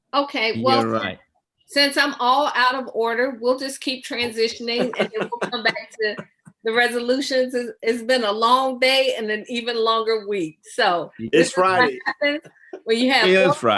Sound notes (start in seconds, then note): 4.2 laughs